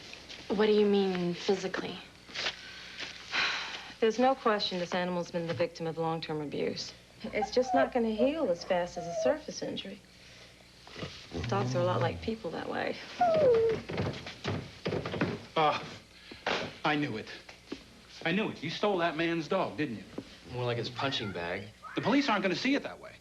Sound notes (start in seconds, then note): 13.3 footsteps